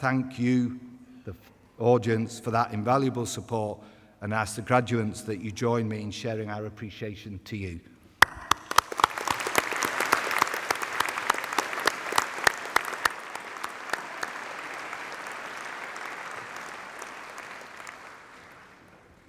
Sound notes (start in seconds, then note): 8.2 applause